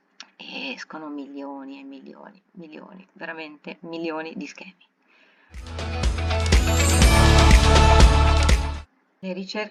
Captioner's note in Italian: Applauso